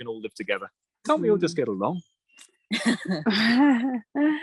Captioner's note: laughter